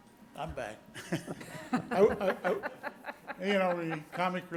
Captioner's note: board members laughing